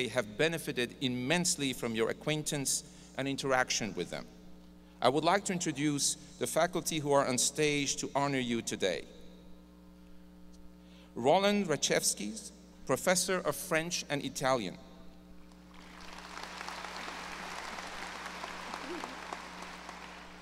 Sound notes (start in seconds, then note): 15.6 audience applause